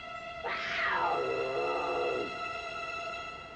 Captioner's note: growling